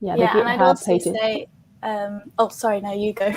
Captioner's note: group chatters